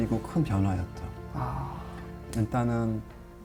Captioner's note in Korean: 의 깨닫는 탄성